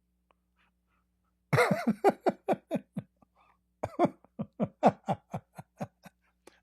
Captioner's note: Ketawa